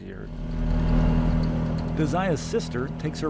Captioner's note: four-wheeler engine rumbling